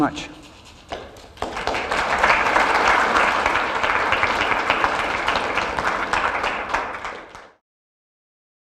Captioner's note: applause